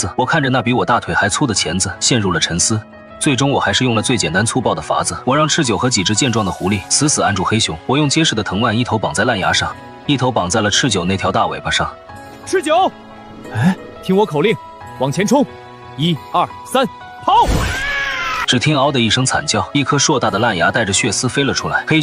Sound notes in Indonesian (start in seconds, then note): 13.2 Menghela napas